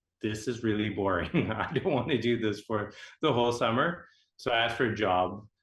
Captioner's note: laughing